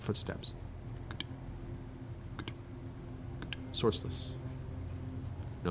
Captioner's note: clicking footsteps